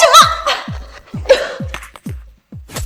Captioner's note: cough